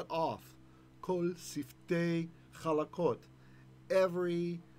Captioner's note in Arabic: بالعبرية